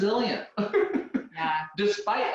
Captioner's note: laughing